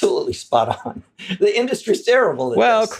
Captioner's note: laugh